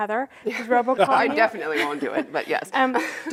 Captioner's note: laughter